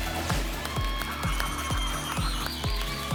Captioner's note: spinning sounds